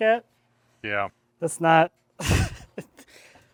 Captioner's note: laughs